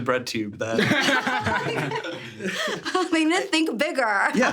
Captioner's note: everyone laughing; laughs